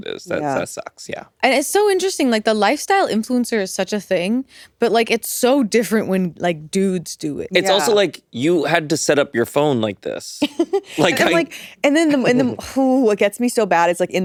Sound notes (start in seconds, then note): 10.5 all giggling